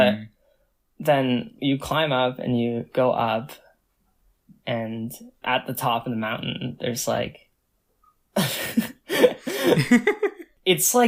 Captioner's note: both laugh